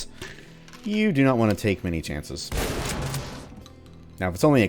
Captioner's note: boom